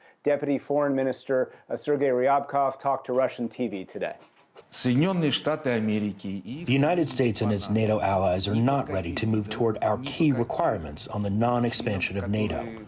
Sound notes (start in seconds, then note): 5.9 through translator